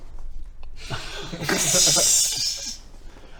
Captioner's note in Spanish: risa sospechosa